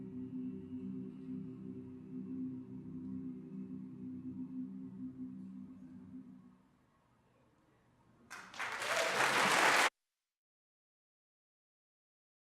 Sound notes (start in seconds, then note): 8.3 applause